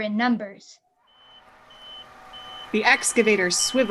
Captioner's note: construction beeping noise continues